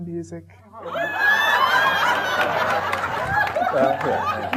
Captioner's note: audience laughing